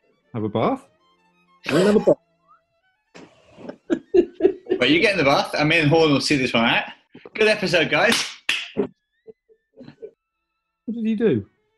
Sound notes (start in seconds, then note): 3.6 laughs; 3.6 giggling; 8.0 clapping; 9.8 giggling